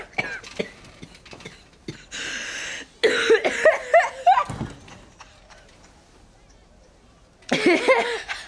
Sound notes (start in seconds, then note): 0.2 Billie coughs; 3.2 Billie coughs and laughs